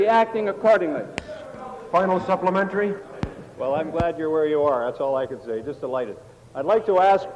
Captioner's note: table Pounding